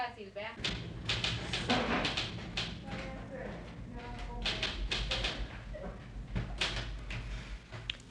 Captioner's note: office Sounds and Typing